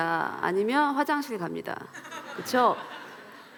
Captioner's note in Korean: 웃음